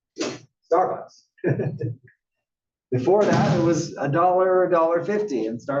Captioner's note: laugh